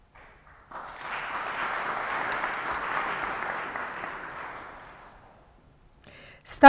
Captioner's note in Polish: oklaski